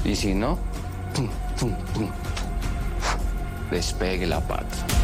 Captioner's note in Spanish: Soplido